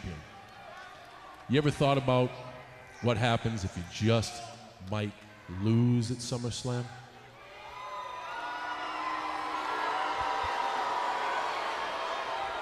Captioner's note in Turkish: Alkış